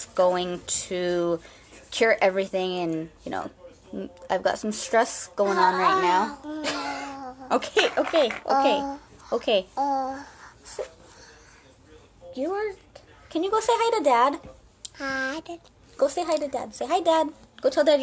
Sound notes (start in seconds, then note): 6.4 child babbling; 8.1 scoffs